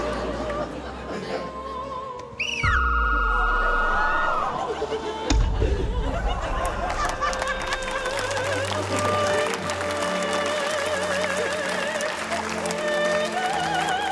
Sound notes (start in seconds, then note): 0.1 opera music; 2.4 whistle trills; 7.2 laughter; 10.1 opera music continues